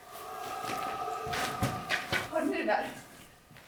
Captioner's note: animalistic scream